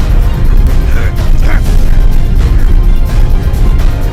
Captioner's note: grunts and growls